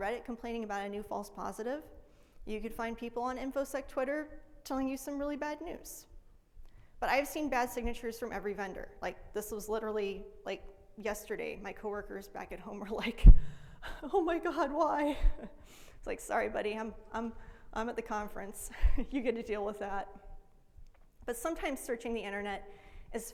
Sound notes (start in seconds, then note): 14.9 laughs